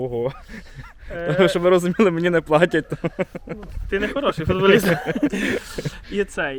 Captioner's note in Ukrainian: Сміються